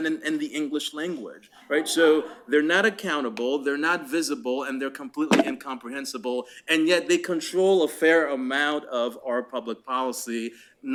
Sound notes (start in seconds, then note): 0.0 laughter